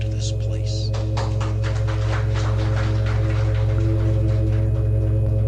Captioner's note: applause